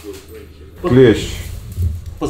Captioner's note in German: Sie sprechen Ukrainisch